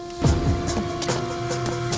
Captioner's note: car Crashing